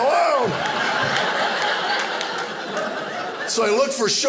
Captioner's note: audience laughing